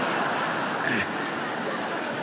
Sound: laughter

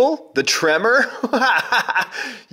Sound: laughs

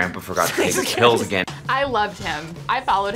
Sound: both laugh

